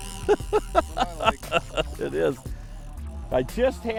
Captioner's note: laughs